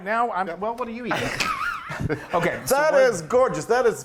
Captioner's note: laugh